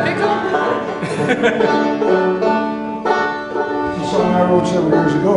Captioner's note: laughter